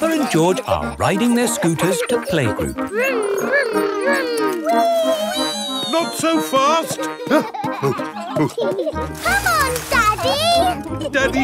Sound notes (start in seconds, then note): 0.0 peppa and george laughing; 6.8 panting; 7.8 peppa and george laughing